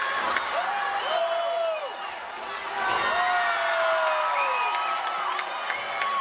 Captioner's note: crowd whistling; crowd cheering